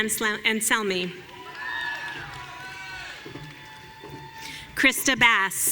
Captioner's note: audience cheering